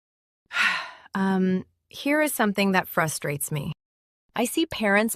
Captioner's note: sighs slightly